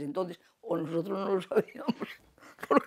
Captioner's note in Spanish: ríe